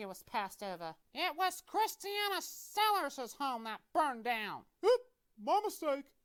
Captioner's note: voice-over